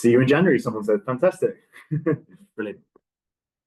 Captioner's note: laughs